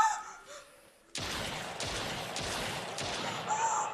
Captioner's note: gunshots